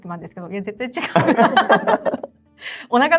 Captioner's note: laughs